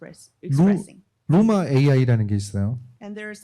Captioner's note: speaking korean